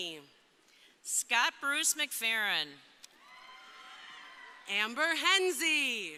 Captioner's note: crowd cheering